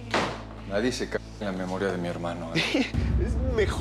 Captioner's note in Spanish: portazo